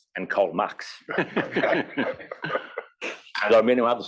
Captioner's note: laugh